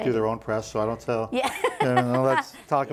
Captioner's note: laughing